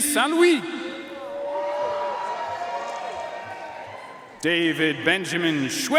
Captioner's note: audience cheering and applauding